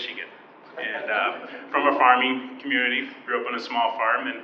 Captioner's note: audience laughing